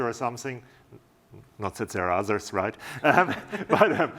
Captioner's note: laughter